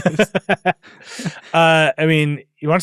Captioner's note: laugh